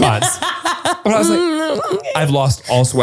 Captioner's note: laughs